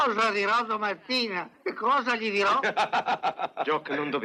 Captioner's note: laughs